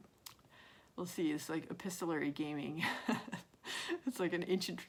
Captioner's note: laughs